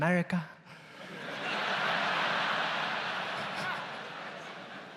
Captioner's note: audience laughs